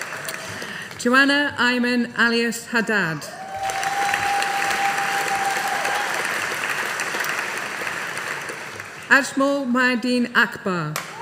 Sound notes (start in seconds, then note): 3.3 audience applauding